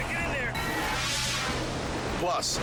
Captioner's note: air whooshes